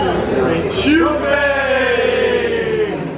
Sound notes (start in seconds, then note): 1.4 speaking foreign language